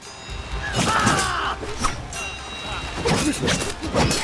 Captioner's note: warriors shouting